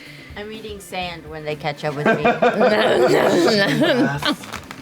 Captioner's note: laughter